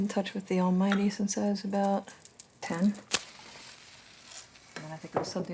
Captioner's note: match striking